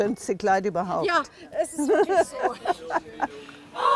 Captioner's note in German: Lachen